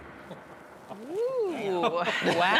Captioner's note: laughing